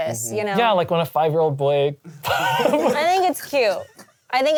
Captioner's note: laughs